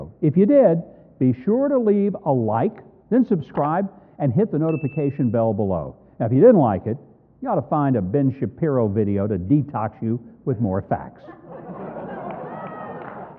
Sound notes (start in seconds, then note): 11.3 audience laughing